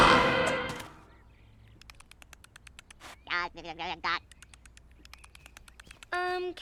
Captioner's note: bird squawking; imitating squirrel sounds